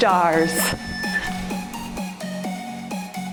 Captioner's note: timer beeps; cheerful music